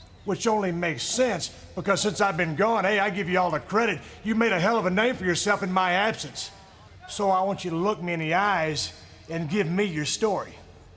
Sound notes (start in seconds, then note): none